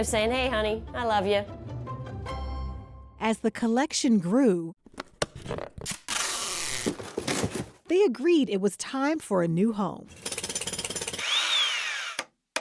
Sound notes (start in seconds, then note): 5.0 clattering, pulling tape off a roller; 10.1 jackhammer, drill whirring